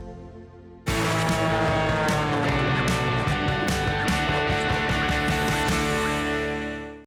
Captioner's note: airplane roaring; upbeat melody